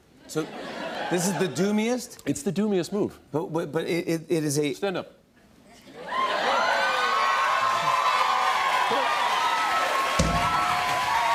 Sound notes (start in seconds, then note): 6.0 cheers and applause